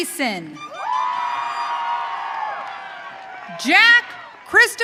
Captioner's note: audience cheering